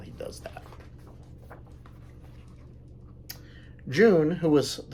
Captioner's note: page turns